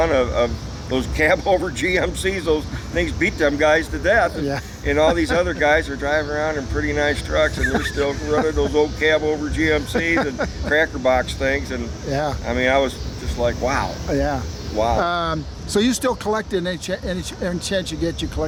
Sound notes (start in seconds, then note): 2.5 laughs; 7.3 laughs